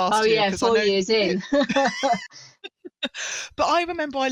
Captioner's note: laughter